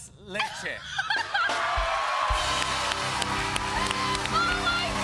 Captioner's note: cheers and applause